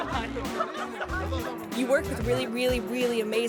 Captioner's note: laughs